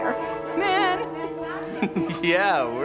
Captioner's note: chuckles